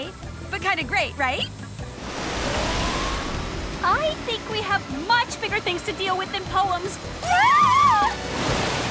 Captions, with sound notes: I think we have much bigger things to deal with than poems! [ALL SCREAMING]